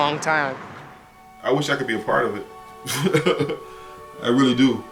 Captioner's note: laughs